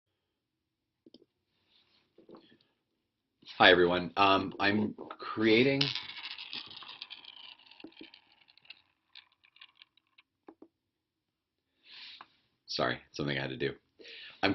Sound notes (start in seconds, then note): 10.7 pause